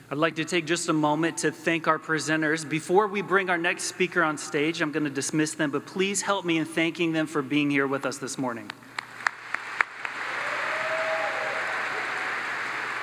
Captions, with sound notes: - I'd like to take just a moment to thank our presenters. Before we bring our next speaker on stage, I'm gonna dismiss them, but please help me in thanking them for being here with us this morning. (audience applauds)